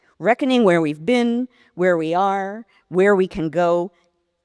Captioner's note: none